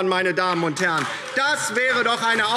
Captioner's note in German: Beifall DIE LINKE